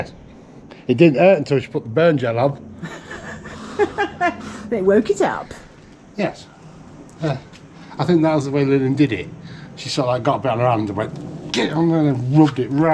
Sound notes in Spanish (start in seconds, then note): 2.8 risas